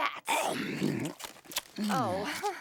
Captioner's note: chomping